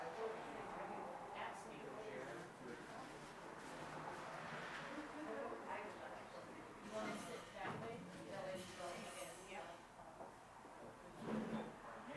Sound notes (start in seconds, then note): 0.2 car engine roaring; 4.8 participants continue chattering